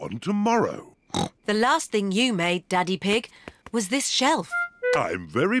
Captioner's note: snorts